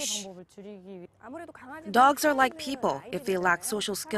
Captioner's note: Korean